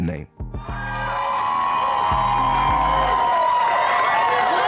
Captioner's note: cheers and applause